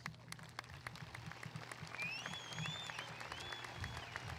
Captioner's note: audience applauding